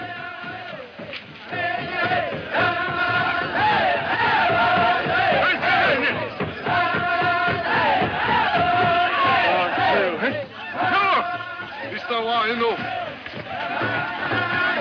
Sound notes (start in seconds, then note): 1.2 drum music; 1.2 men chanting; 9.6 Red Hatchet speaking in foreign language